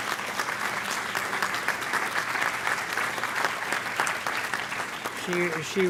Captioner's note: applause